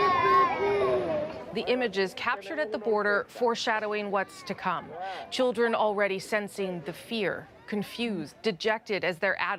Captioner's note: crying